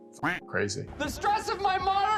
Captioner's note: duck quacking